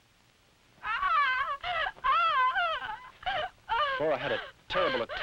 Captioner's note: Flora shouting